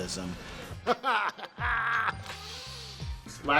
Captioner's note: laughs